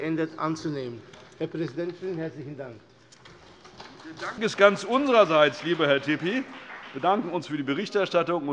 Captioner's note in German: Vereinzelter Beifall CDU und BÜNDNIS 90/DIE GRÜNEN